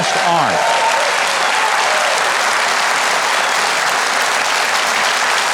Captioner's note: audience applauding